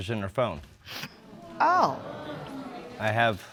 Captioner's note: audience groans